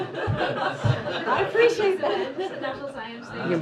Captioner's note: laughter